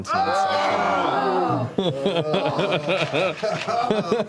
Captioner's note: groaning